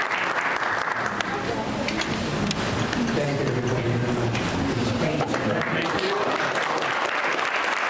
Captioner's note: applause